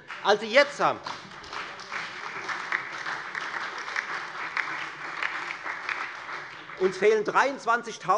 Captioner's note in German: Beifall bei der FDP, der SPD und der LINKEN